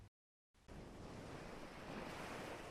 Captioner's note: distant waves